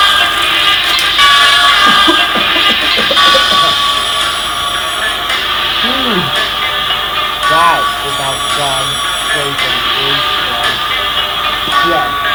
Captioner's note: coughs